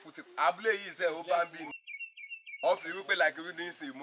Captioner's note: birds chirping